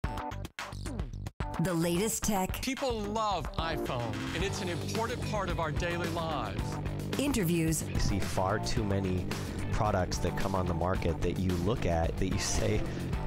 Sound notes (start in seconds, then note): 1.5 upbeat music; 1.7 voiceover; 7.2 voiceover